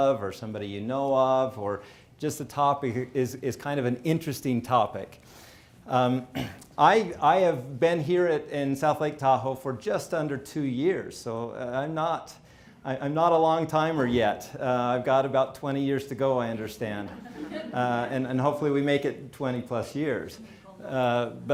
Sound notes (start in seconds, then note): 17.0 people laughing